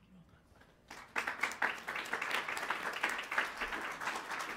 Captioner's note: applauding